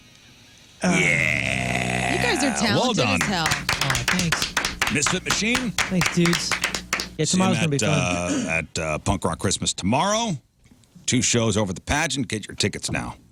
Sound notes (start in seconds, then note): 0.0 blank Audio; 2.9 applause